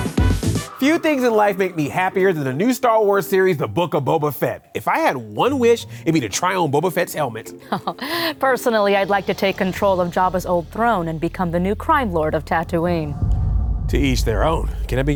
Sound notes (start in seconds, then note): 7.6 laughter; 12.9 suspenseful music playing